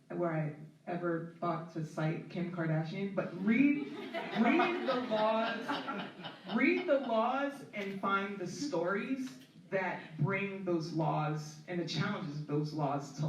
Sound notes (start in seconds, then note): 3.7 laughter